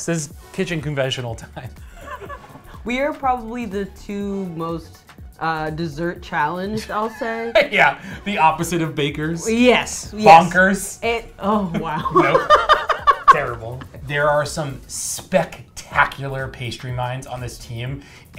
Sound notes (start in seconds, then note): 11.6 laughs